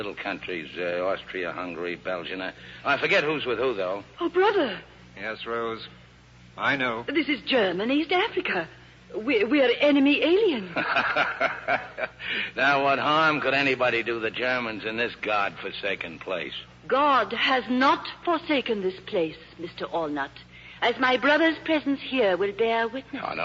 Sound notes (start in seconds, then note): 10.7 laughs